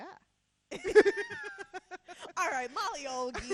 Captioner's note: laughing